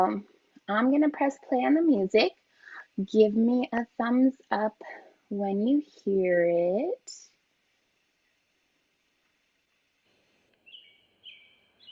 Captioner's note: birds chirping; gentle music